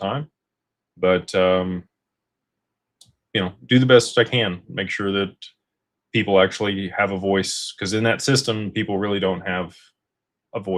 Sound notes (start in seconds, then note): none